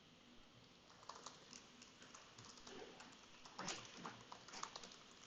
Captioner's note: keyboard keys clicking